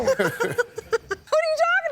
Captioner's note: laughing